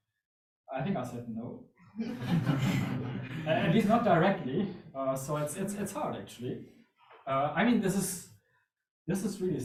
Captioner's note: audience laughs